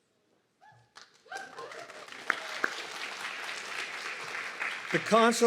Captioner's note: audience clapping and cheering